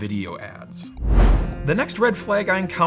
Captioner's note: air whooshing